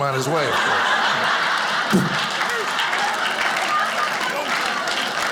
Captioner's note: audience laughing